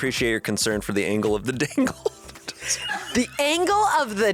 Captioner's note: laughs